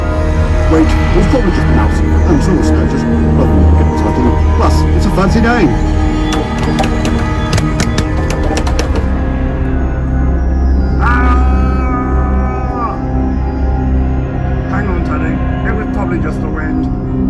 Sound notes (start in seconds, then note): 3.3 sinister spooky music; 5.1 sinister spooky music; 6.2 various loud clunks; 9.1 sinister spooky music; 10.9 yells of terror; 13.3 sinister spooky music; 16.4 sinister spooky music